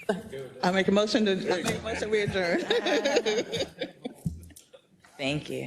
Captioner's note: laugh